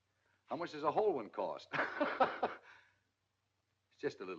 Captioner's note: laughing